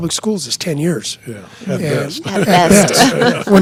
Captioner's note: laughing